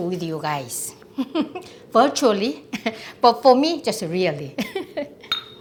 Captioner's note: laughs